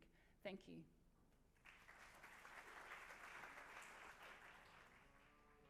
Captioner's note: applause